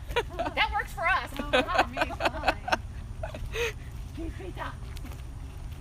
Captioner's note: laughter